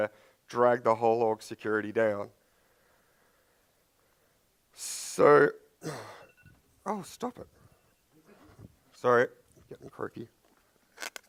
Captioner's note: phone interruption